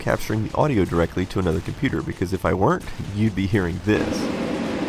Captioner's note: loud fans